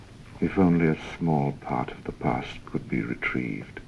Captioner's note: none